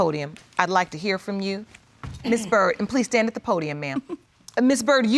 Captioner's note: chuckles